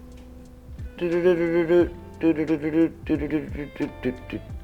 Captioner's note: humming